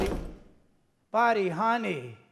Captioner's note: door slams